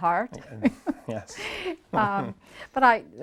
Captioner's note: both chuckles